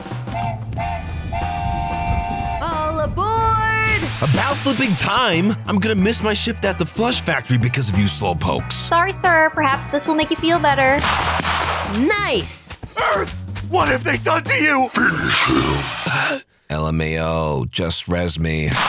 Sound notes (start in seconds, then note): 0.3 train whistle noise; 11.0 multiple gun shots; 18.7 multiple gun shots